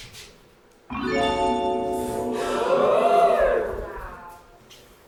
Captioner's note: audience: "oooooo"